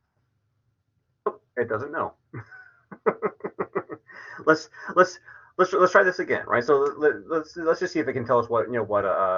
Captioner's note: laughs